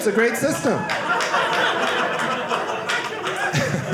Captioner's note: audience laughing